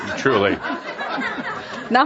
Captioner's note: laughter